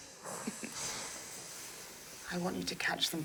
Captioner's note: laughing